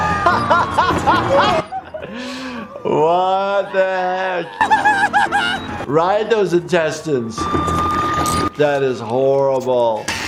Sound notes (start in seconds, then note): 0.1 laughing; 4.7 Cuddles yelling